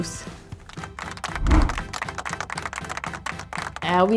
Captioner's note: audience clapping